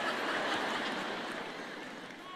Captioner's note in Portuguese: público rindo